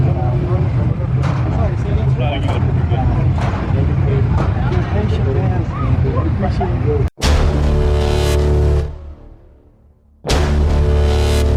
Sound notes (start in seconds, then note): 4.4 attendees chattering loudly; 7.1 dramatic music